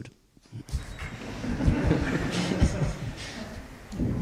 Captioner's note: audience laughter